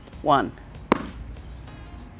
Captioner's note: ball hits floor